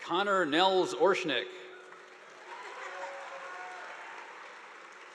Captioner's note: audience applauding